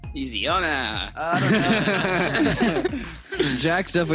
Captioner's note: laughter